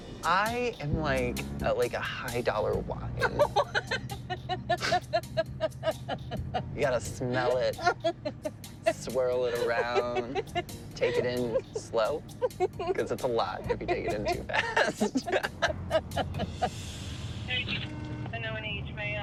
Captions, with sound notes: I am like a high-dollar wine. (LAUGHING) What? You got to smell it, swirl it around, take it in slow because it's a lot if you take it in too fast. [laughter]